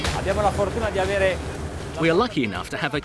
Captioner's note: upbeat rock music; speaking in foreign language